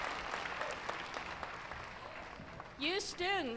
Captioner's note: applause